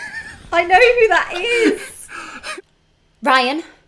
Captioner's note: laughter